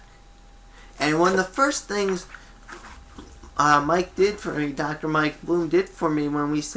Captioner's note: papers move